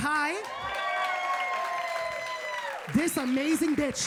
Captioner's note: audience cheering